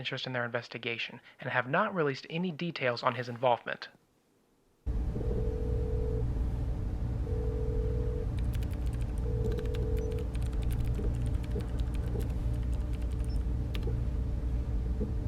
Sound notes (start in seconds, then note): 6.0 phone line ringing; 8.3 computer keys tapping